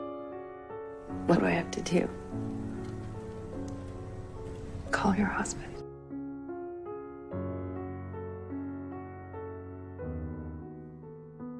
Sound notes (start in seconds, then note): 1.4 voiceover; 5.0 voiceover